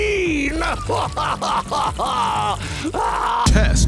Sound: ugly crying

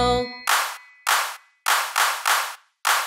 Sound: loud claps

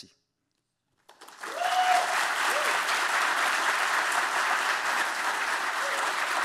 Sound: audience cheering and applauding

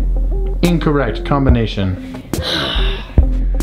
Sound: male Voice

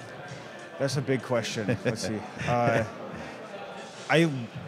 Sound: laughs

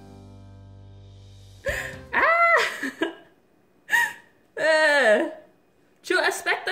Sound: laugh

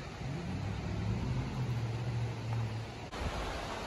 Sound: water flowing, kids yelling/playing

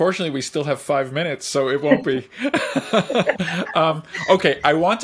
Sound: laughs

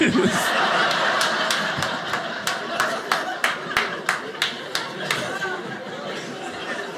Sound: audience laughing

